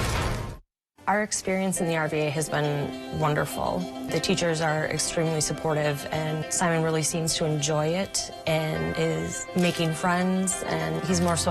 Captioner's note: SFX: "Built Ford Tough" Slam